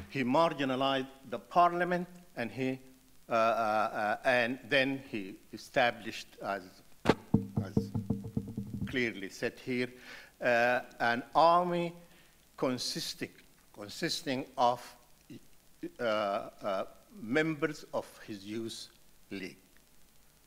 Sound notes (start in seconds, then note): 7.1 muted rattling